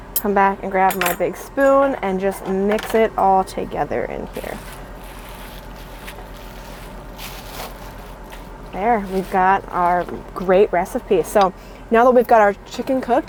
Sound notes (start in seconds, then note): 5.0 air conditioner whirring; 5.0 ingredients sloshing